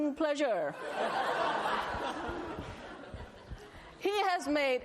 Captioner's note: laughter